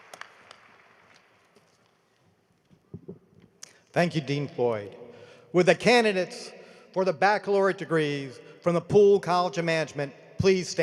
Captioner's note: applause